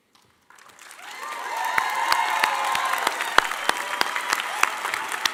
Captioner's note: audience applauding and cheering